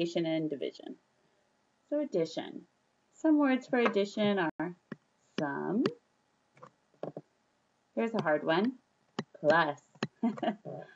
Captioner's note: chuckles